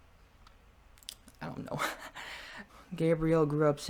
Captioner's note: laughs